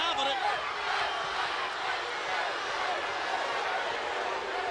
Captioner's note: audience booing